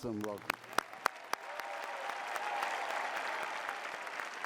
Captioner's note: cheering